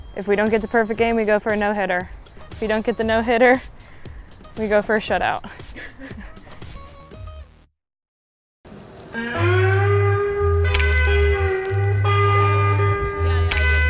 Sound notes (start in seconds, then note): 5.4 female laughs; 9.1 slow slide guitar music